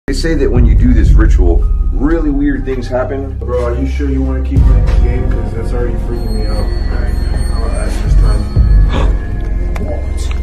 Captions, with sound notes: They say that when you do this ritual really weird things happen. Bro are you sure you want to keep playing this game cause it's already freakin me out. Alright I wanna ask this time *gasp*